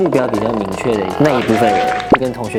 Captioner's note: a round of applause